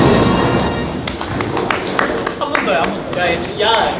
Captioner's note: self-congratulatory applause